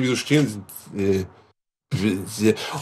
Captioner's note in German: Ratlose Laute